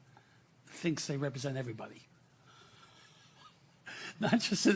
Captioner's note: laughing